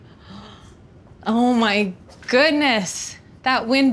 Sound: gasps

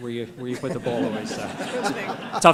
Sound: laughter

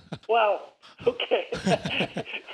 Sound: laughs

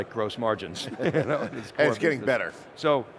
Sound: both laughs

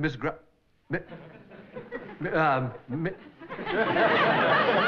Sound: stammers

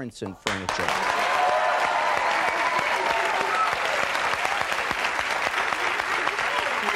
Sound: audience cheering and applauding

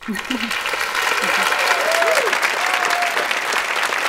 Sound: applause

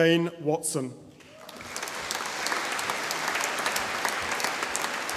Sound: audience applauding

